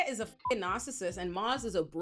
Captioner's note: beep